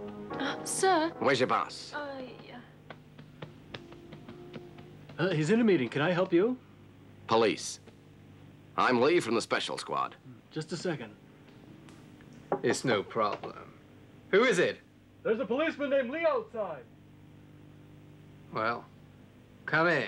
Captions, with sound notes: - Sir? - Where's your boss? (woman muttering) - Huh, he's in a meeting, can I help you? - Police, I'm Lee from the Special Squad. - Just a second. - It's no problem. (knocking) Who is it? - There's a policeman named Lee outside. - Well, come in.